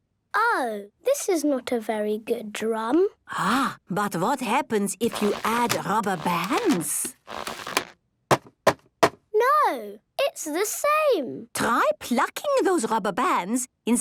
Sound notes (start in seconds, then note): none